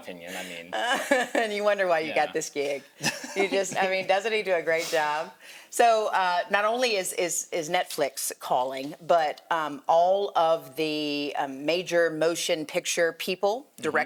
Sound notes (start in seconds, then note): 2.9 chuckling; 5.7 chuckles